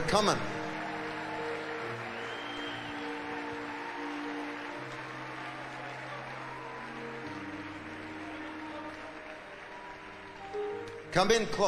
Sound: audience cheering and applauding

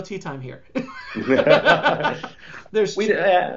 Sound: laughs

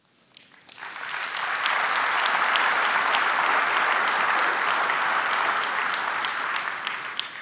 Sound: applause

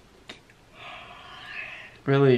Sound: yawning

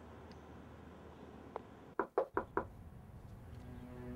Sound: door knocking; foreboding music

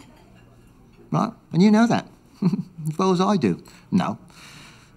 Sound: chuckles

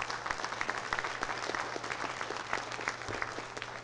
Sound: applause

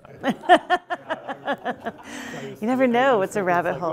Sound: laughing

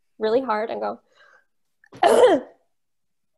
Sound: coughs

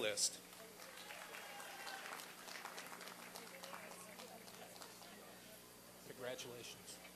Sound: applause and cheering

